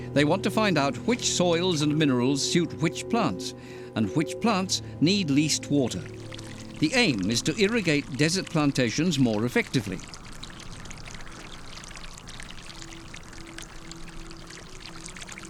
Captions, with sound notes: They want to find out which soils and minerals suit which plants, and which plants need least water. The aim is to irrigate desert plantations more effectively. [splashing]